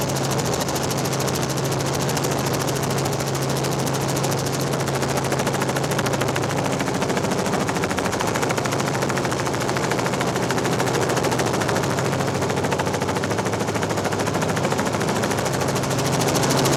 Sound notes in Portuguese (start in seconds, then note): 3.0 Hélice de helicóptero continua